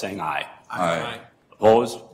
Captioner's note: multiple voices